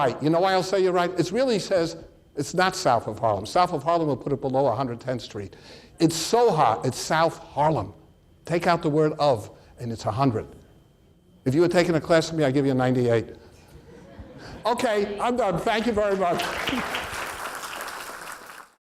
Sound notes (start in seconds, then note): 13.7 audience laughs; 16.0 applause